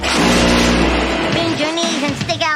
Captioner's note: engine exploding